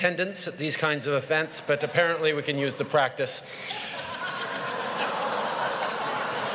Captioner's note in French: Rires